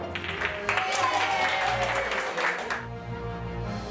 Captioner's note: audience cheers